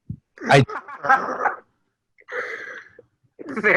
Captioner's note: chuckles